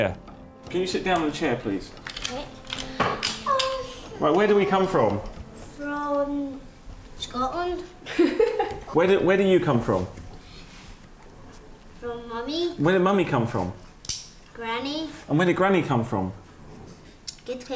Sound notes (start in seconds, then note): 8.0 laughs